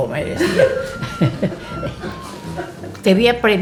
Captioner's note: laughter